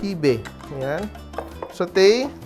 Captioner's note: knock